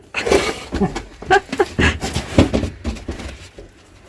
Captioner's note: laughing